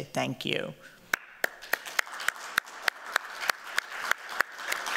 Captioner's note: applause